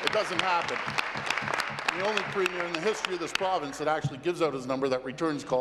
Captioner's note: applause